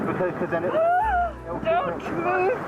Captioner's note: screams